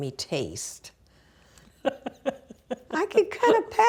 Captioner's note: laughing